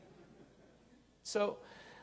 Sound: audience laughing

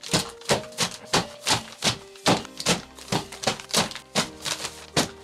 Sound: reams of paper thumping continues

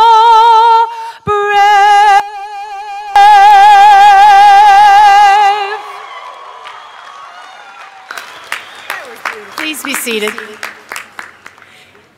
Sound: applause

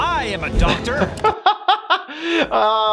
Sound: laughs

